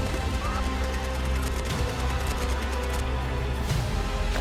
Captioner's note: gun Fire